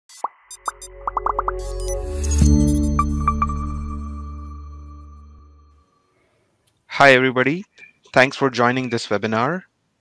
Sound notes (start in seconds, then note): 0.6 gentle music; 1.0 icons popping